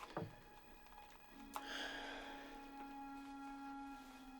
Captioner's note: sighs